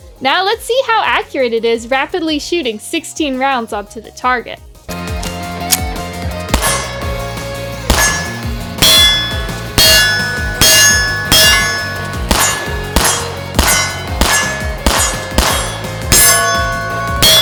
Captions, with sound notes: Now let's see how accurate it is rapidly shooting 16 rounds up to the target. (upbeat music) (gunshots)